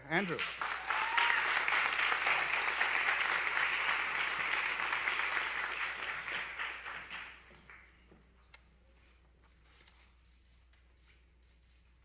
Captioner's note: applause